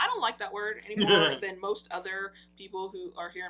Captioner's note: laughs